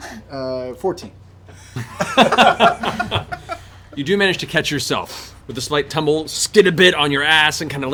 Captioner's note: laughs